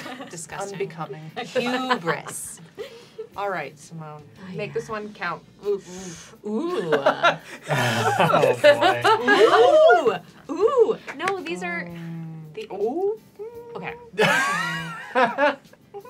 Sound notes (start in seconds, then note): 8.0 disbelieving noises; 14.2 large laughter